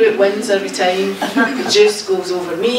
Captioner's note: audience laughing